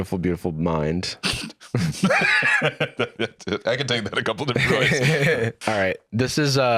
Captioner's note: snorts, laughs